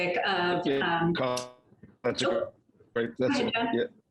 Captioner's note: voices cracking